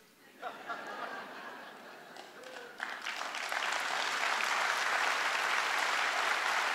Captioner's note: laughter; applause